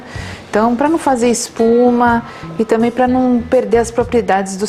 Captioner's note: frothing